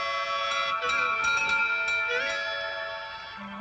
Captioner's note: door bell ringing